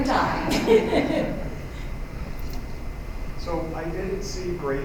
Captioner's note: laughter